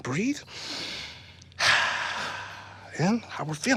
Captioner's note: both inhale deeply, then exhale